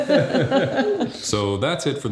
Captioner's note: laughing